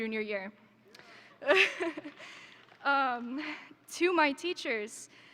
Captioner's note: laughs